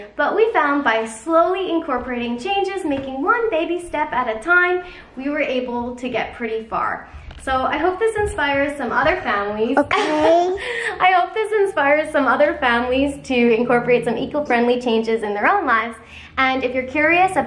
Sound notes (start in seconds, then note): 9.8 laughter